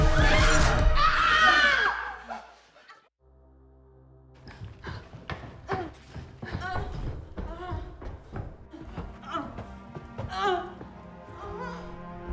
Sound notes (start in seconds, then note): 0.1 all screaming; 6.8 moaning